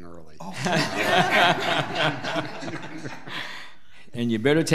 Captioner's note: people laugh